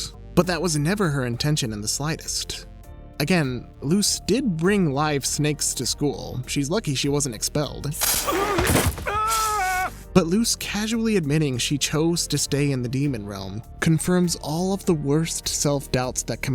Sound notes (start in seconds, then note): 7.9 shouts; 7.9 snake hisses